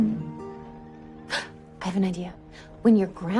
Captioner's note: gasps